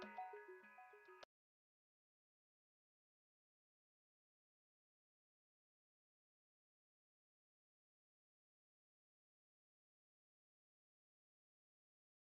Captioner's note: pause